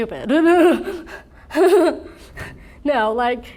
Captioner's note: laughs